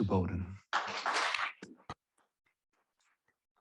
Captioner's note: applause